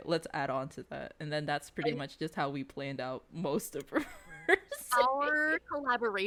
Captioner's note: laughs